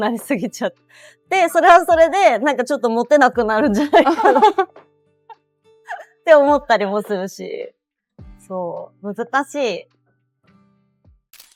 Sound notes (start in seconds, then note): 7.3 laughs